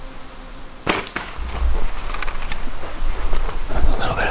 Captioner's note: arrow thwacks